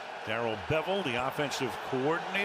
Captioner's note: cheering